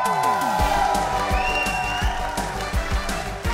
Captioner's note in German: Jubel